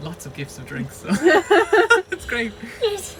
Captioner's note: laughter